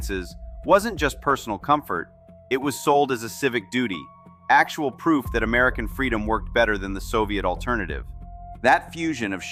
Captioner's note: thoughtful